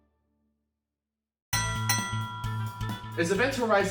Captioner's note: triumphant music climaxes; fight bell dings